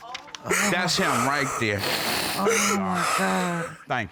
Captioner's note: sobbing